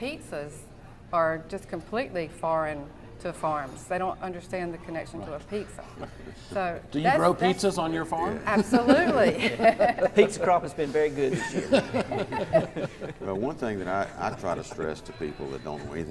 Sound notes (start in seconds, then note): 8.6 laughs